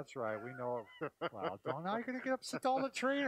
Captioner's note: laughing